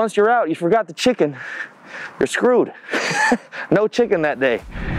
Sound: laughs

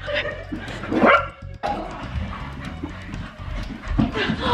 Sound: Logan barks

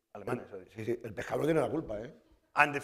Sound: speaking spanish

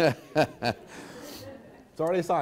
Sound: laughs

